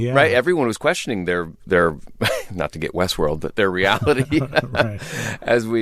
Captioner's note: laughter